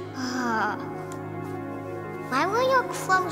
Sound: Harmony sighs

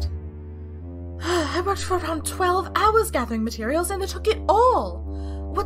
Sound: exhale

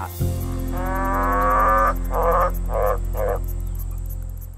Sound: croaks

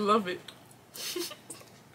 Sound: giggles

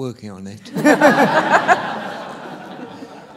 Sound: laughter

